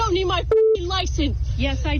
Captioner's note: beep